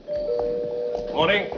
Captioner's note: bell ringing